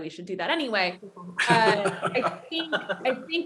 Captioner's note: laughter